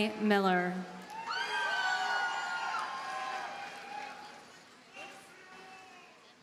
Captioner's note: audience cheers and applauds